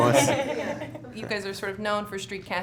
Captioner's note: laughs